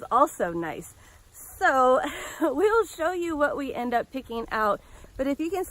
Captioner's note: laugh